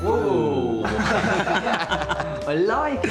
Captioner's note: laughing